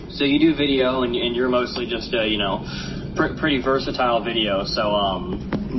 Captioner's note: sniffs